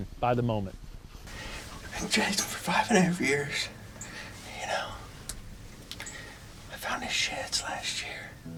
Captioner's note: whispering